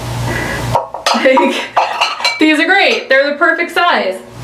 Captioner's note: laughs